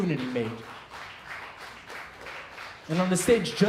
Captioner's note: applause